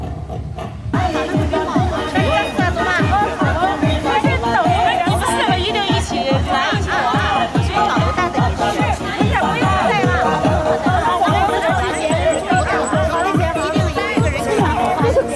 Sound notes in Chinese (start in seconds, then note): 5.6 欢快的音乐; 9.1 用外语说话; 10.8 欢快的音乐